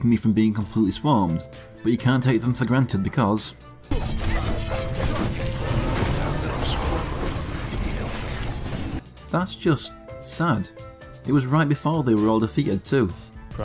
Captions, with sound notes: from being completely swarmed. But you can't take them for granted because... [In-game audio] That's just... sad. It was right before they were all defeated too.